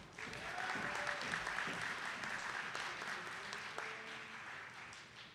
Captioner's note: attendees clapping